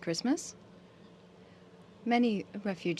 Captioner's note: speaking French